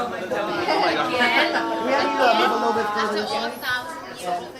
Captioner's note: all chattering